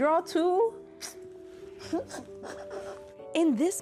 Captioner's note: chuckling